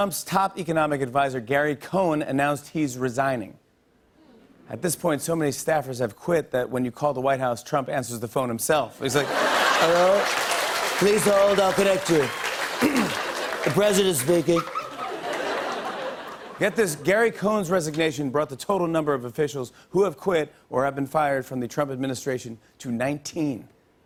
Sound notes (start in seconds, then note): 8.1 Imitates Trump; 12.8 clears throat; 14.4 normal voice; 14.5 laughter